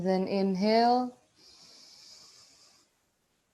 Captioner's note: breathing in